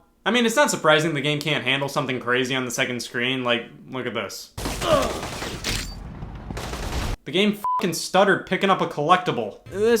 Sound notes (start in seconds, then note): 4.6 guns firing; 4.8 Ivan groans; 7.6 beep